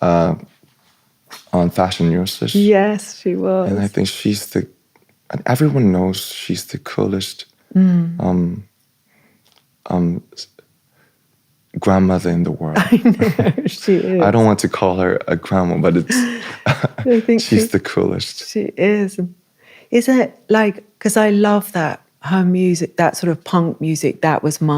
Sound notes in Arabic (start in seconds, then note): 15.9 ضحك